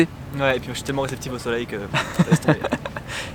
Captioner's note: laughs